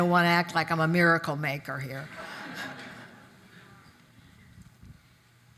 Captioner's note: audience laugh